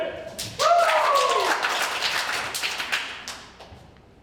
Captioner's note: ensemble applauds